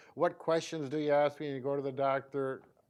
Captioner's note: none